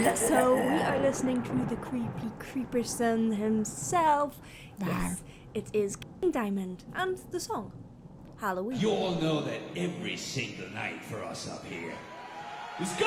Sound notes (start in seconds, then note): 5.1 monster growling